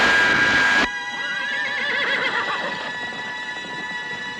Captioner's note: horse whinnying; tense music